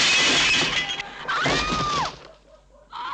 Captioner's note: screams